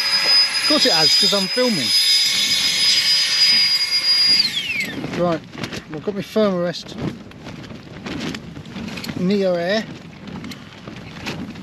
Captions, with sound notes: of course it has, because I'm filming (electric mini fan whirrs to a halt) right, well, i've got my Thermarest neoair